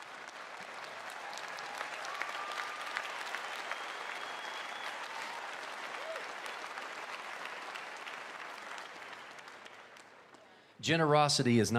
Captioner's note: applause